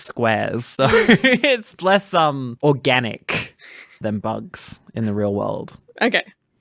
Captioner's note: laughs